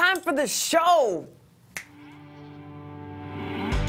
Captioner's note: finger snap